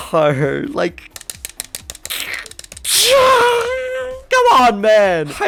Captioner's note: button mashes loudly